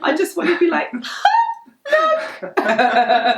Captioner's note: vocalizes